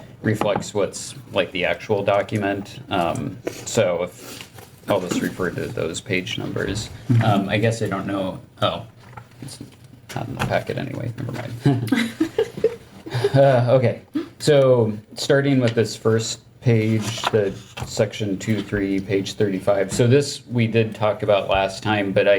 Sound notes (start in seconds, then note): 11.6 member laughing